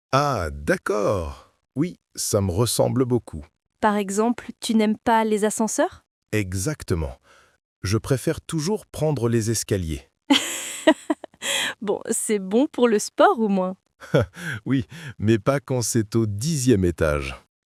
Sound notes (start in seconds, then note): 10.2 laughs